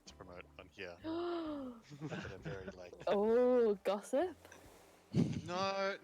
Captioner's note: gasps